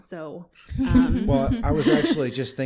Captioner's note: laughter